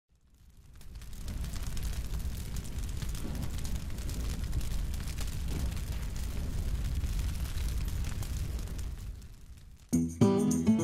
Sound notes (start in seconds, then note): 0.1 fire sound